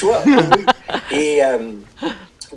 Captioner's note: laughter